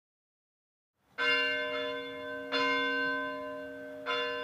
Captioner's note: bell ringing